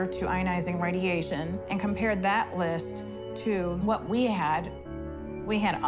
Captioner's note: none